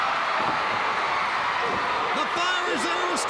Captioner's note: crowd cheering